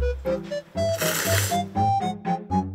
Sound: slurps

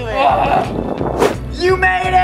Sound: yells

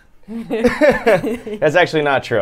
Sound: laughs

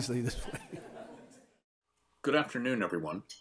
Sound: audience laughs; laughs

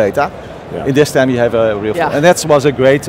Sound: murmurs

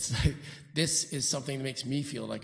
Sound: chuckling

